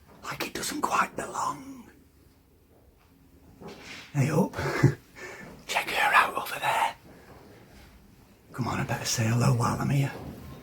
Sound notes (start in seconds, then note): 0.2 whispering; 4.6 giggles